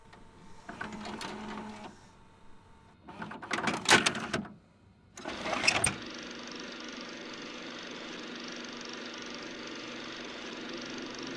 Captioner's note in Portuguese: som de rolo de filme girando